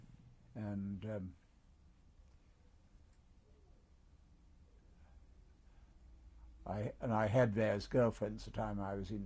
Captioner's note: pauses for 6 seconds